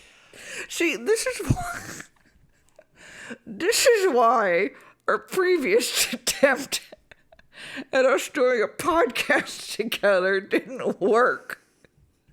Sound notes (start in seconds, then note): 2.2 laughs